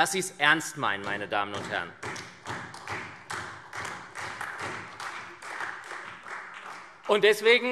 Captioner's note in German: Beifall SPD, Freie Demokraten und vereinzelt AfD